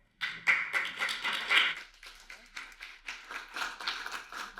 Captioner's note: audience applauding